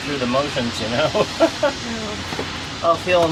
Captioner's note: nervous laughter